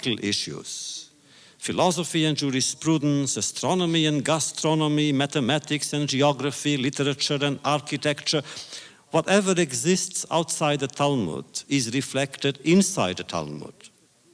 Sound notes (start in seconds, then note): none